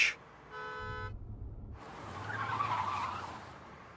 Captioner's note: honking